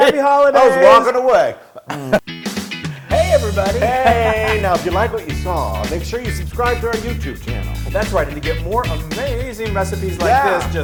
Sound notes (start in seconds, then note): 0.1 laugh; 2.3 upbeat music